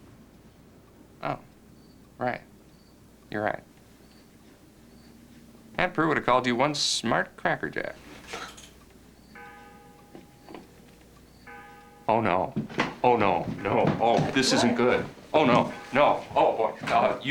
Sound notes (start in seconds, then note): 8.2 clock chiming